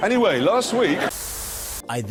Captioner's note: static